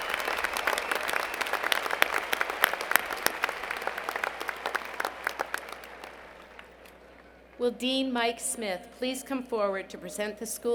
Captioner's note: applause